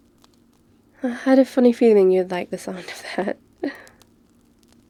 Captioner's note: laughs